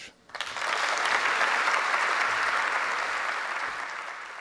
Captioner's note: applause